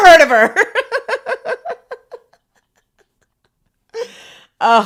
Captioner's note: both laughing